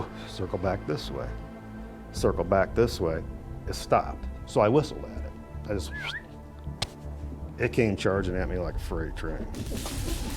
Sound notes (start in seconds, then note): 0.0 mimics creature; 5.8 whistles